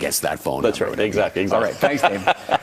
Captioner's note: laughs